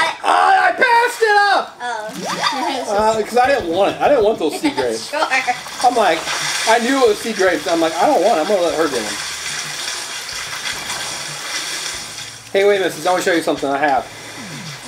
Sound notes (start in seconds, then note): 9.3 water splashing